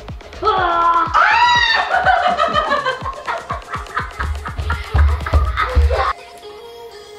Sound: laughing

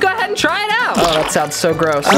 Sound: food squeaks

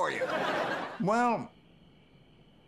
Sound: audience laughing

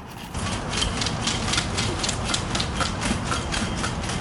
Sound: gravel crunching

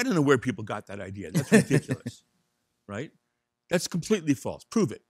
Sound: laughing

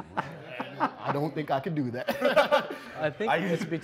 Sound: laughs; laughs

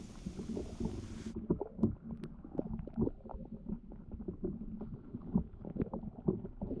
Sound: underwater Sounds

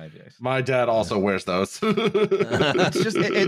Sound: laughs

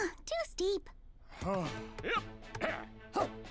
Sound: grunting

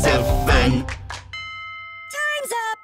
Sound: bell sound

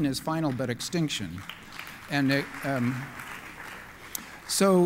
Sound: applause

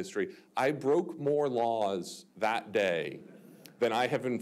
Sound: audience chuckling

